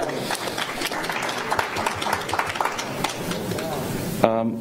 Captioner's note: applause